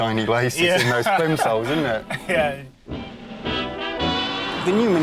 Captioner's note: laughs